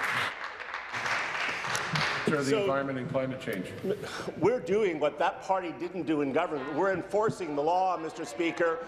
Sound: applause

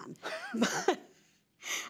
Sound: laughter

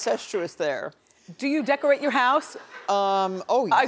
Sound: audience laughing

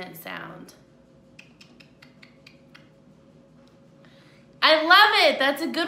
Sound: clicks tongue

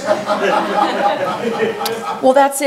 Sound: audience laughs

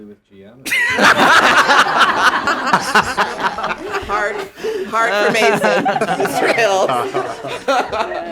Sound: laughter

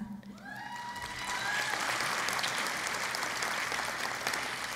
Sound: cheering and Applause

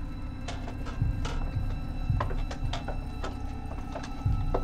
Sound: stairs creaking

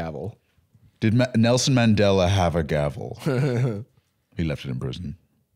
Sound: laughing

